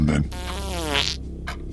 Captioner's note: passing wind